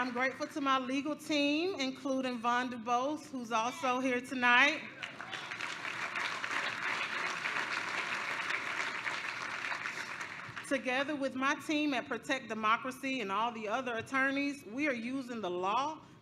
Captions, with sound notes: I'm grateful to my legal team including Vonda Bose who's also here tonight. [APPLAUSE] Together with my team at Protect Democracy and all the other attorneys, we are using the law